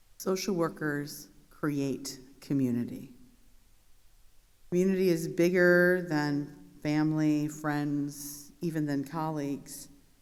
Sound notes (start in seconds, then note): none